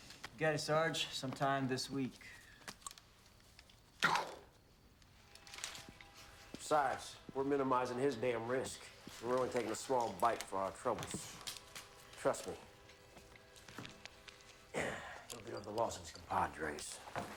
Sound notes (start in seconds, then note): 4.0 Castellano mimics gunshot